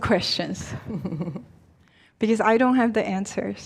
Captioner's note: chuckling